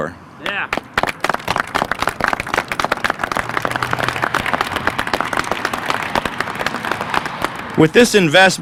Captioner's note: applause